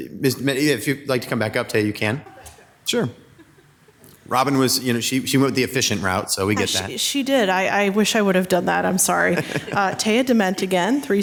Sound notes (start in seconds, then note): 3.3 laughs; 9.3 laughs